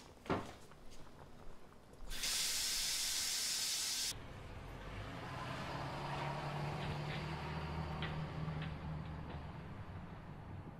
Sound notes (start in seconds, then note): 2.1 faucet running